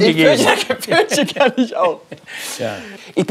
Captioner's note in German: lachend